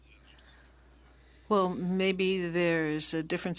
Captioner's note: speaking French